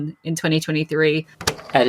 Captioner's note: tape recorder clicks on